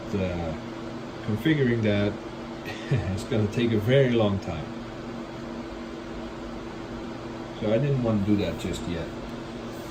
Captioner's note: chuckles